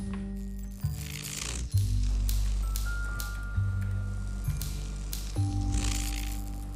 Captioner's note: electricity humming and cracking